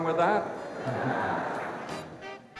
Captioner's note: laughter